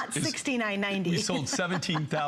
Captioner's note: laughter